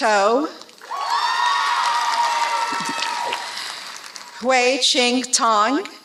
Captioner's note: applause